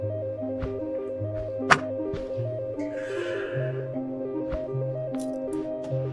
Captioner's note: files slapping onto desk